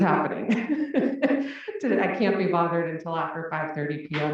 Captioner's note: laugh